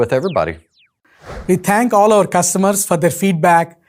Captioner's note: screen whooshing